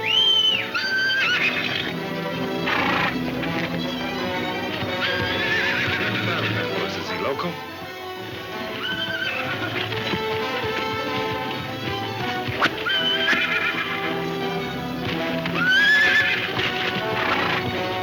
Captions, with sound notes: (horse whinnying) - That horse is loco. (whip cracking) (horse neighing)